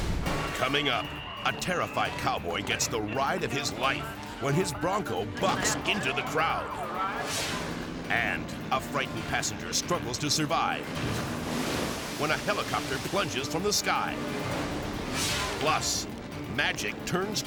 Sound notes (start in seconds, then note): 7.0 screen whooshes; 10.8 water splashes; 15.0 screen whooshes